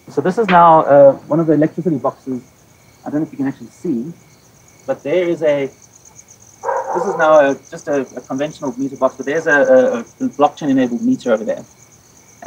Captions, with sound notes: So, this is now one of the electrical boxes. I don't think you can actually see, but there is a (dog barking), this is now just a conventional meter box, but there's a blockchain enabled meter over there,